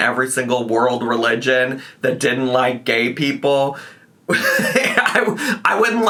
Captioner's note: laughs